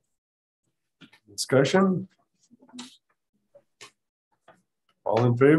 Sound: silence

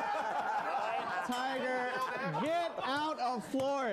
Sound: laughter; bell rings

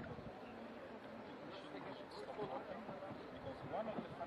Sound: tourists chatting

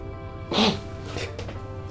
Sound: sniffs

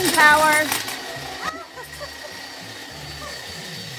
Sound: laughing

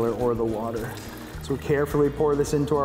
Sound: water trickling

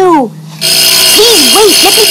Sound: bell rings

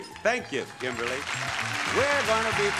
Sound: upbeat music; audience applauding

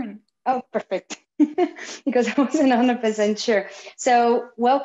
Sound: chuckles

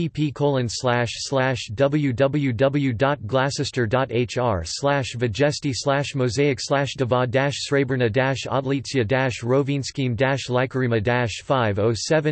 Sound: in Croatian

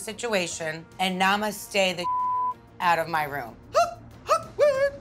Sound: beep

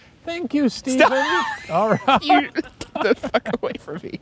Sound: laughing

